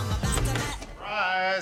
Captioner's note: door opens